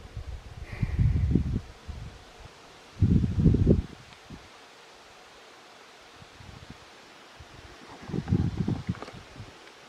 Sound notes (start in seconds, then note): 0.0 wind blowing